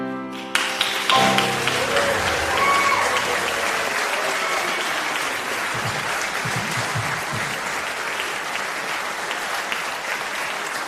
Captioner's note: applause